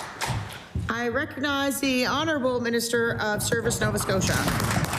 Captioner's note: applause